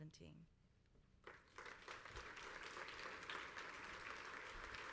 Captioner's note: crowd applauds